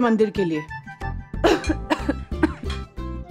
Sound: coughing

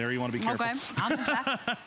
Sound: laughter

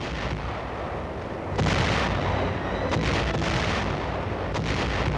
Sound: explosions booming

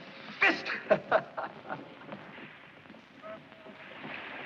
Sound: laughs

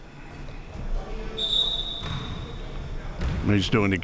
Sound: whistle

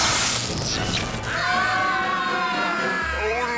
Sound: screaming

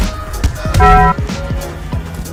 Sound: dong

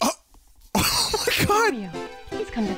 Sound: laughs

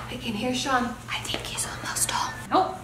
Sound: whispering

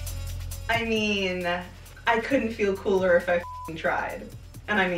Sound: beep

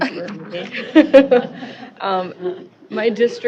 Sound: laughter

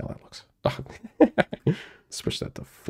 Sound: laughs

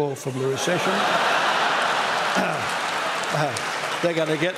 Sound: laughter

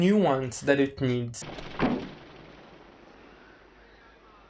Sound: car door closes

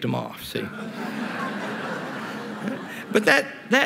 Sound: laughter

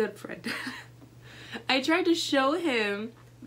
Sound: laughs

